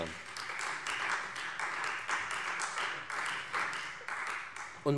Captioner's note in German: Beifall Freie Demokraten